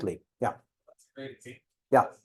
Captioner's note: student speaking faintly